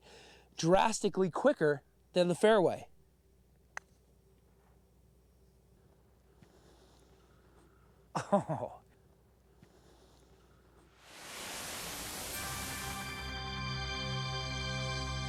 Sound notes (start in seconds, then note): 8.1 chuckles; 12.3 <i> dramatic theme playing</i>